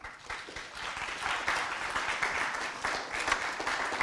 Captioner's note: applause